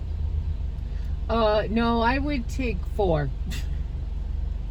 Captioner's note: laughs